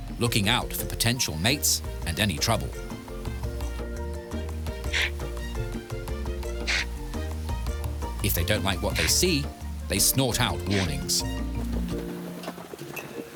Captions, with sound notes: looking out for potential mates and any trouble. (TOPI GRUNTING) If they don't like what they see, they snort out warnings.